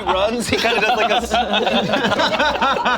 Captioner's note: laughs